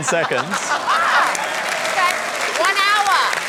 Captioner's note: cheering, applause